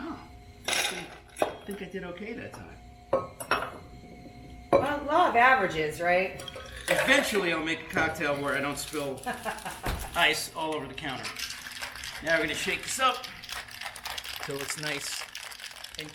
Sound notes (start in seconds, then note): 9.2 laughs